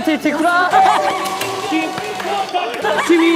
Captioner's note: bursts out laughing at the sudden increase in difficulty